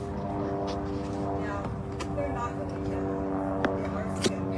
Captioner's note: plane in distance